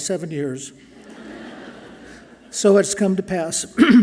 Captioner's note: audience laughing softly